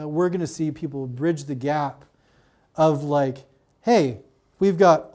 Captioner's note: none